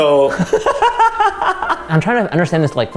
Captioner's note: laughs